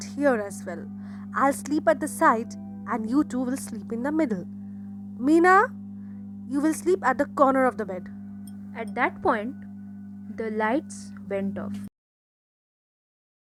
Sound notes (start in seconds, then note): 2.2 in a stern voice